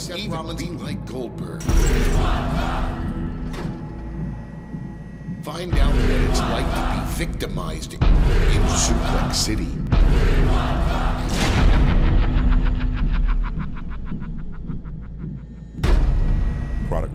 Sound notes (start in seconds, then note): 5.4 chanting; 11.4 evil laughter